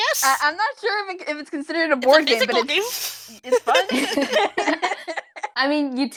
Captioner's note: laughing